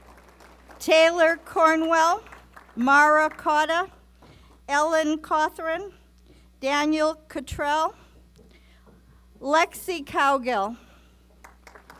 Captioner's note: applause; applause